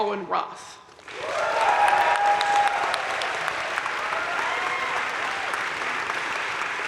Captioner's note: crowd cheering and applauding